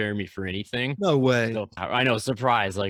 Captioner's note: sarcastically